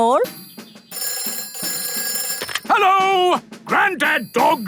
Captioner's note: telephone ringing